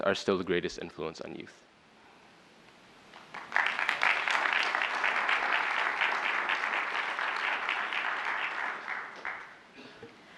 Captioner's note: applause